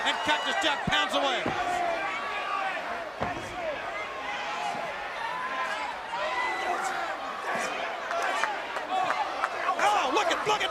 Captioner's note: crowd cheering